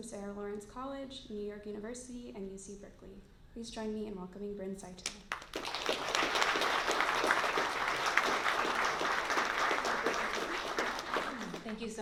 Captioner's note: applause